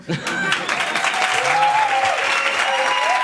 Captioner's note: laughter and applause